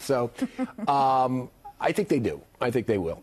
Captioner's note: laughter